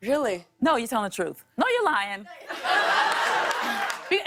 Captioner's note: laughter